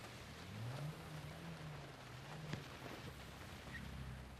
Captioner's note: rain pattering